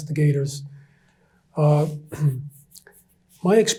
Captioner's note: clears throat